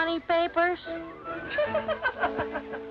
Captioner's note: women laugh